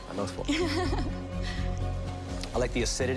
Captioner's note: giggling